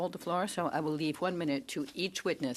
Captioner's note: speaking French